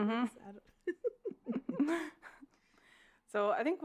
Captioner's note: laughs